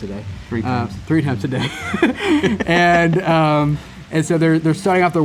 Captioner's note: laughs